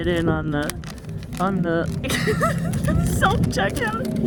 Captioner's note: laughs